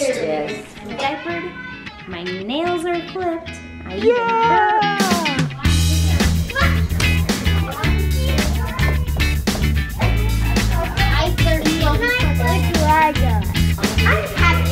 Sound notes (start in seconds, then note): 5.7 upbeat, acoustic music; 10.9 children chattering